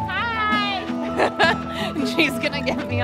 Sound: laughing

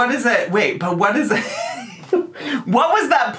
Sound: laughs

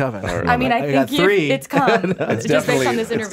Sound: Jon laughs

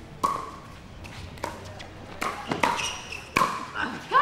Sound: ball bouncing

